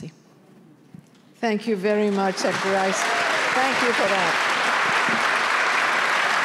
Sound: applause

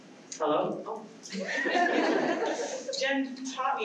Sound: laughter

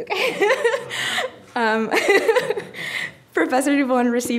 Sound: laughing

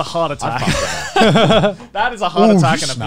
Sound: laughing

